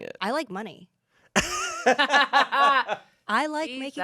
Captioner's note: everyone laughs